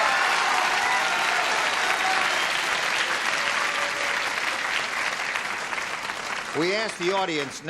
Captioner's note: applause